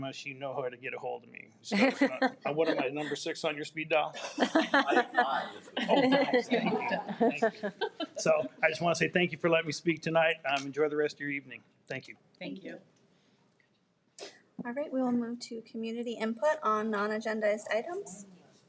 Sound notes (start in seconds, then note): 4.4 people laugh